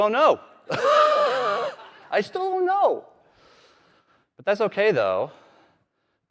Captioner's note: laughter